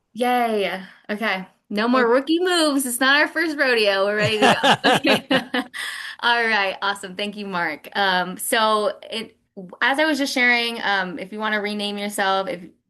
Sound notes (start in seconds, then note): 4.2 laughs